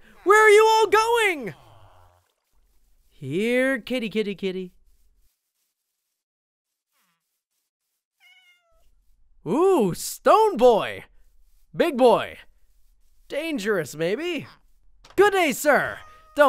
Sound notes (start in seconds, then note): 8.2 meows